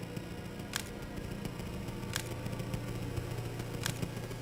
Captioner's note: camera clicking